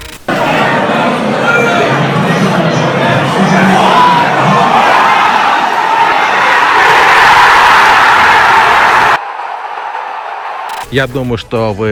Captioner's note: shouting from fans